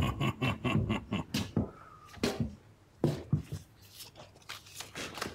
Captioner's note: Bill snickering; footsteps approaching